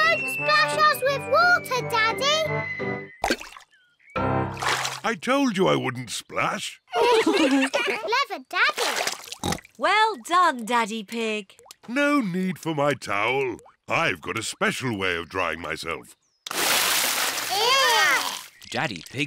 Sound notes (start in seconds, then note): 6.9 all laugh; 9.4 oinks